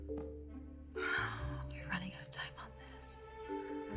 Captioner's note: sighing